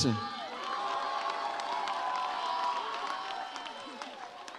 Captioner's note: audience cheers